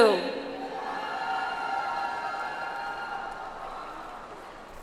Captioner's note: audience applauds